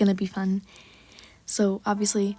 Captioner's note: big breth